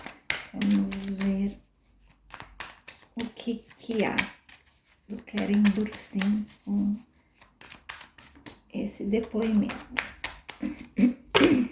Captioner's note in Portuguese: limpando a garganta